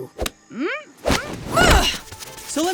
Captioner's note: groaning